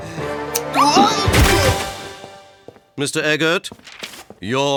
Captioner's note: grunting